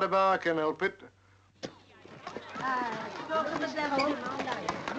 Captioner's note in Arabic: الناس يتحادثون